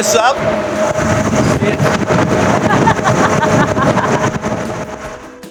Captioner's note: air blowing